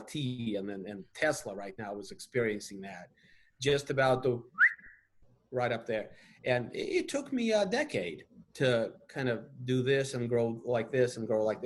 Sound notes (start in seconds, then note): 4.5 whistle